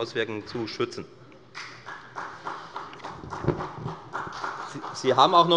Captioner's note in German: Beifall der Abg